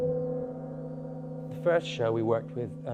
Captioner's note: gong reverb